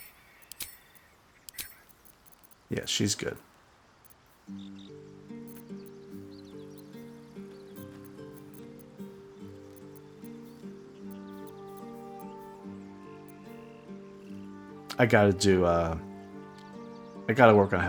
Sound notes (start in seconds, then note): 6.5 silence